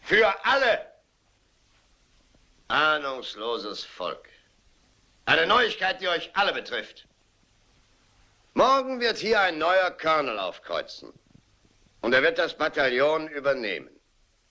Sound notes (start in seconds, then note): 2.3 chattering stops